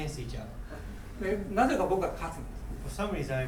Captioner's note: speaking in foreign language